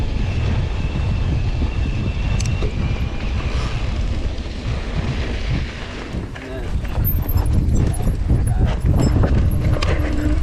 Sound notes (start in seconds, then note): 2.9 bike ratchets; 7.6 bike squeaking